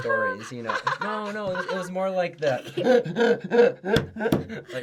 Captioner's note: table slap